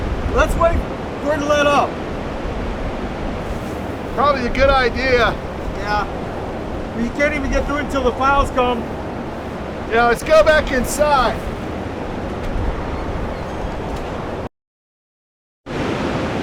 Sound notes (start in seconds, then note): 12.9 blizzard whirring